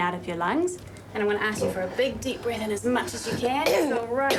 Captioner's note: coughs